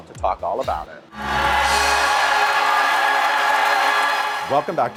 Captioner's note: music and applause